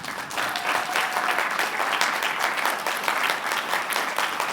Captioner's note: applause